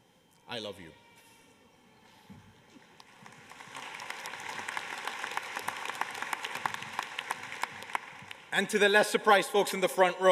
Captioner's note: applause